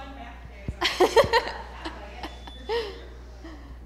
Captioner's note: laughter